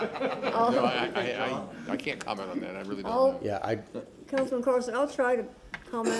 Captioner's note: laughter